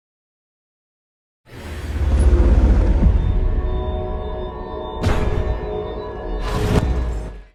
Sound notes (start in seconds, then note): 1.8 celestial music; 5.0 metal door slams